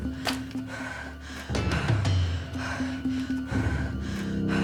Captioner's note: breathing heavily